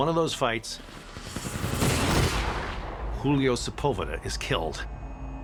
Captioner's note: gunfire blasting